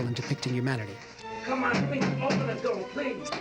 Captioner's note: knocking Continues